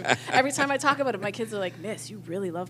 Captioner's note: laughter